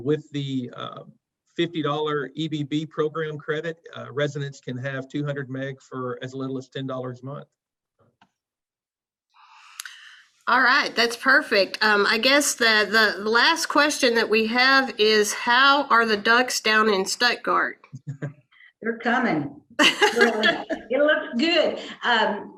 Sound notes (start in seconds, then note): 19.8 chuckles; 19.8 laughs